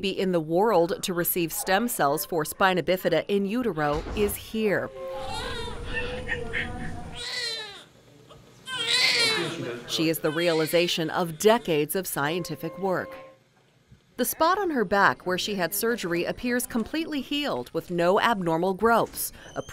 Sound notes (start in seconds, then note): 7.0 baby crying